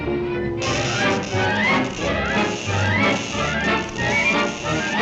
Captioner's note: electricity zaps